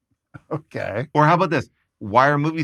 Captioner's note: chuckling